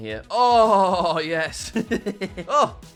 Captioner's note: laughs